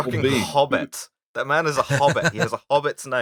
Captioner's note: laughter